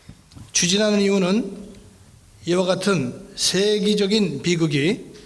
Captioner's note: speaking in foreign language